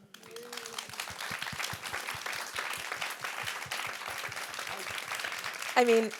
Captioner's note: audience applauds